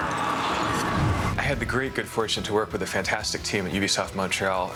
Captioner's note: snarling